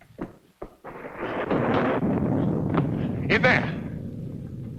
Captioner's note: thunder rumbling